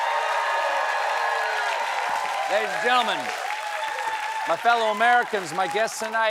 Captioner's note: cheering